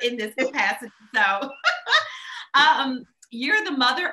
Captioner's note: laughs